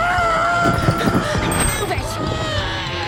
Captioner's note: pigeon screams; bell dings; pigeon screams